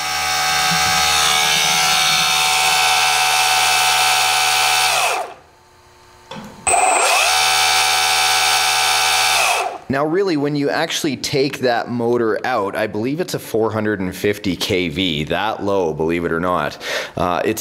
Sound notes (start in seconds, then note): 0.0 mechanical whirring; 6.6 mechanical whirring